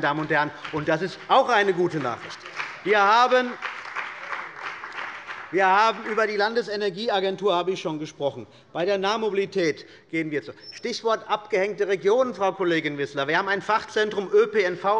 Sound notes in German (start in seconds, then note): 2.5 Beifall bei der CDU und dem BÜNDNIS 90/DIE GRÜNEN